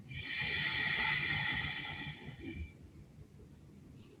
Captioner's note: deep breathing